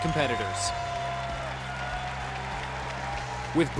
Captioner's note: cheering and applause